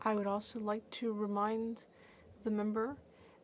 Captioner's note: speaking French